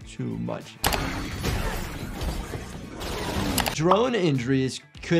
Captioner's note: guns firing